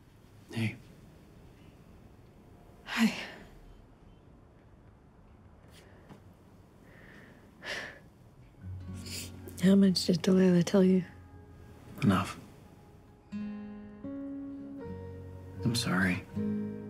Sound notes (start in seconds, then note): 7.6 sighs; 9.0 sniffles